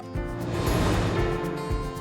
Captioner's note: graphics whooshing; light upbeat music